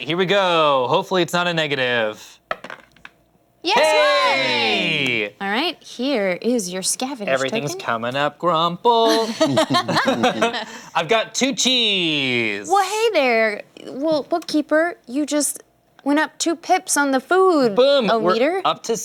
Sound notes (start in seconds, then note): 3.7 cheering; 9.0 laughter